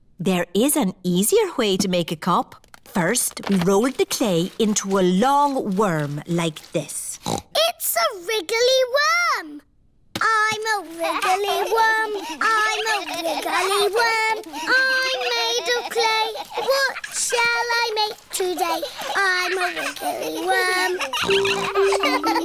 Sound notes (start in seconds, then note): 7.0 snorts; 13.6 all laughing; 21.5 snorts